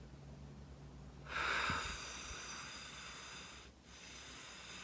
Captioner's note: exhaling